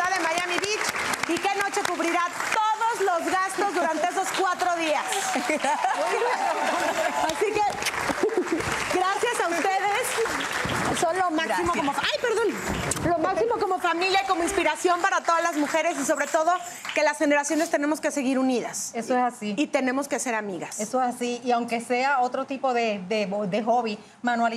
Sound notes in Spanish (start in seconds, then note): 5.1 Ríe